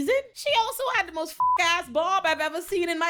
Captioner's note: beep